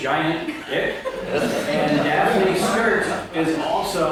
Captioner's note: audience laughing